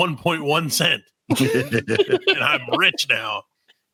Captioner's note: laughing